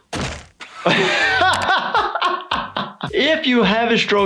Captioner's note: laughs